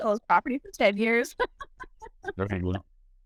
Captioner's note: laughs